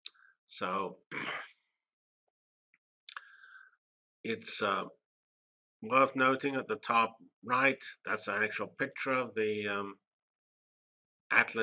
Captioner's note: cough